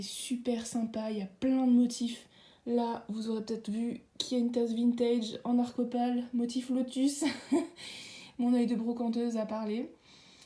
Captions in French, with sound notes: Il est super sympa, y'a plein de motifs là vous aurez peut être vu, qu'il y a une tasse vintage en Arcopal, motif lotus (rires) mon oeil de brocanteuse a parlé